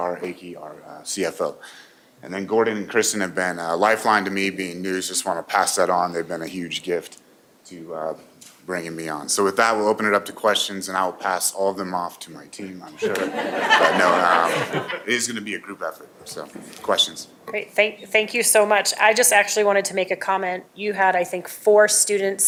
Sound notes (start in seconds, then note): 14.7 laughter